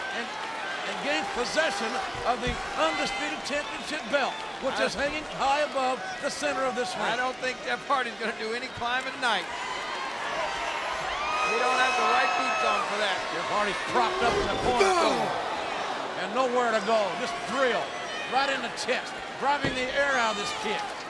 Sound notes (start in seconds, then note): 10.4 audience cheering; 13.9 Undertaker grunts